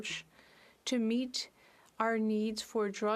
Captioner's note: speaking French